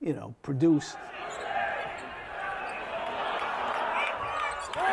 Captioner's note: crowd cheering